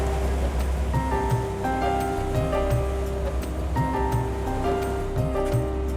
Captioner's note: sound of ice hitting the boat